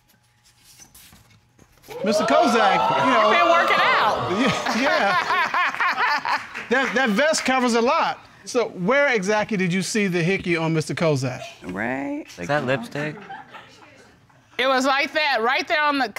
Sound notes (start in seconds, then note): 1.8 audience cheering; 4.2 chuckles; 6.0 laughs